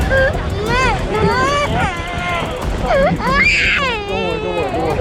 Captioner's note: baby crying